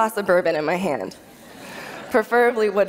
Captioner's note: laughter